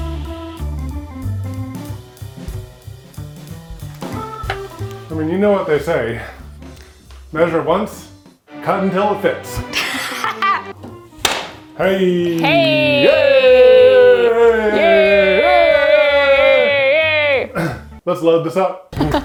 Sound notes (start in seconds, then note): 0.1 jazzy music; 9.7 laughs; 15.6 cheer